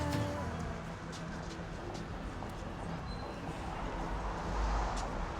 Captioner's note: various traffic sounds